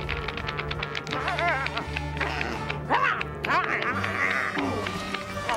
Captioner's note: <i> grunting and snarling</i>